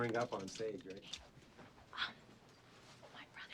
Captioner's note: whispering